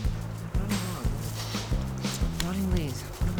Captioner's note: sniffs